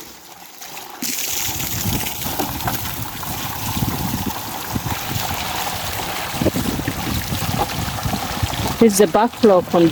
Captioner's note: sound of water flowing